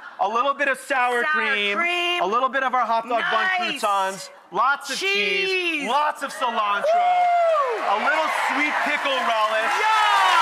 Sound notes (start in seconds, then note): 6.2 Rachael and audience cheer